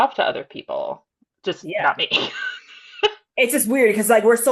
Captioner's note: chuckles